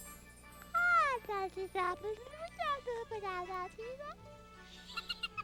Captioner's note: baby noises; giggling